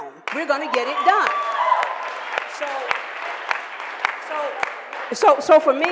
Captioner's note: cheering and applause